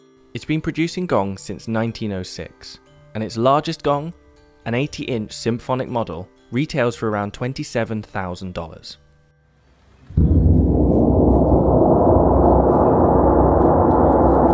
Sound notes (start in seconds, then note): 10.1 gong sounds